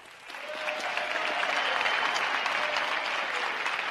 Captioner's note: crowd applauding